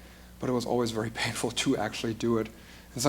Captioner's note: none